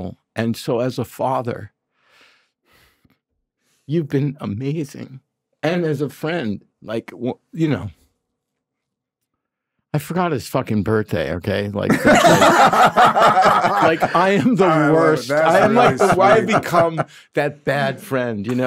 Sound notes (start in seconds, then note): 11.8 group laughing